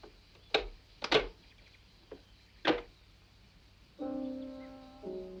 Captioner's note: glove compartment clicking; ominous music